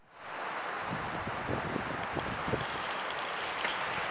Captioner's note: soft wind sounds